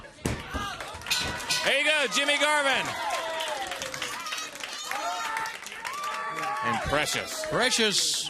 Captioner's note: bell ringing; crowd cheering